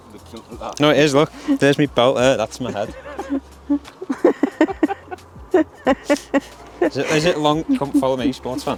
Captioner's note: laughs